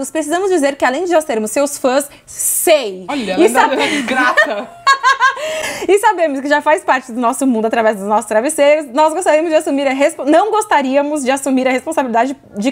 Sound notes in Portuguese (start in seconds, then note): 3.6 risos